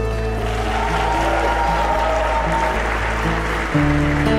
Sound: people applauding

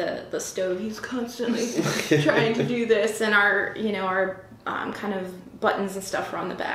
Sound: laughter

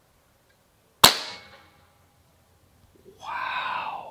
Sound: gun fires

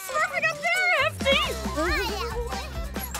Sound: babbling

